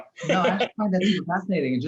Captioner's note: laughs